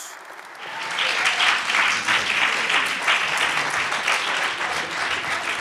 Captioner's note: audience applauds